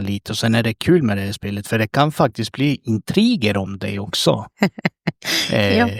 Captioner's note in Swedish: skratt